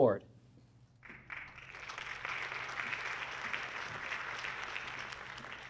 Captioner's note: audience clapping